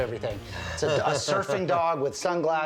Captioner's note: Mike laughs